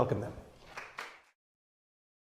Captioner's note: applause